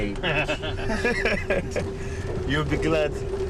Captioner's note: laughing